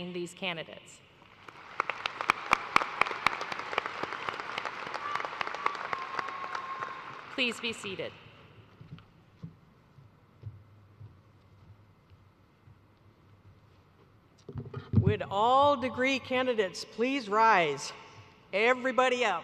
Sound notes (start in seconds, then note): 5.3 applause